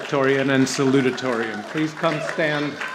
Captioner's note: audience applauding